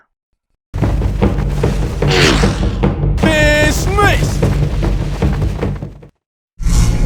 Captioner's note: game sounds